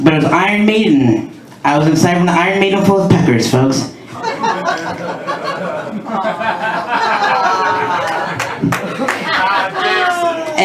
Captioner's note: laughter and applause